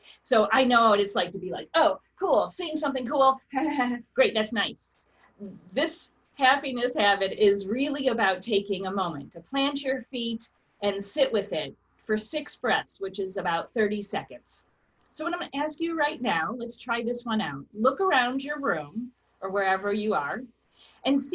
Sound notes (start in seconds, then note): 4.3 chuckles